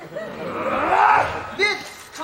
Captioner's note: readying grunt